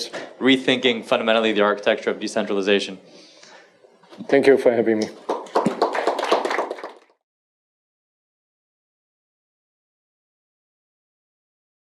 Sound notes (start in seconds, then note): 5.0 applause